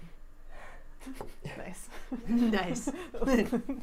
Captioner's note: snickers